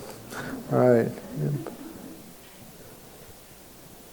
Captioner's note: crowd murmurs